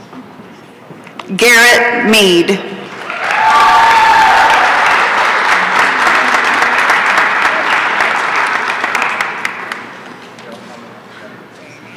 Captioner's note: applause and cheering